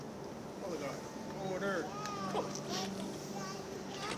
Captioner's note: people murmuring